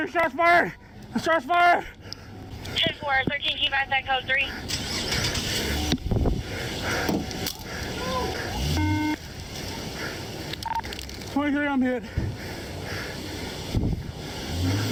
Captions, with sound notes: 43, shots fired, shots fired. - Ten four, thirteen. Code 3. (car revving) - 43, I'm hit.